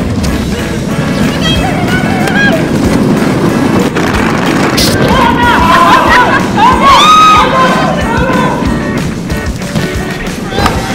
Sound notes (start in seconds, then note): 1.1 yelling